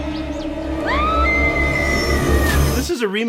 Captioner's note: screams